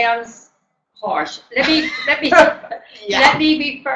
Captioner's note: laughter